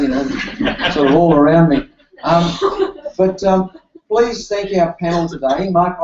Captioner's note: applause